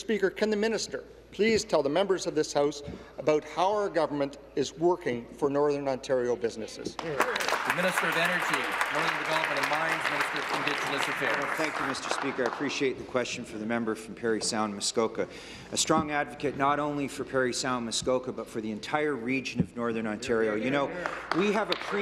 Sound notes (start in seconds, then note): 9.4 applause